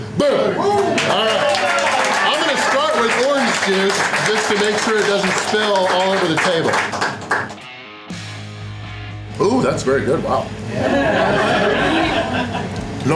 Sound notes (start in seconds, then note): 6.6 crowd clapping and cheering; 10.6 crowd laughter